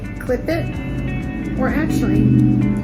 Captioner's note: air whooshing